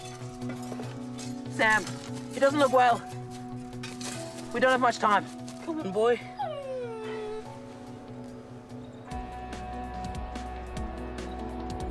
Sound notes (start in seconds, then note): 6.2 Rusty whimpers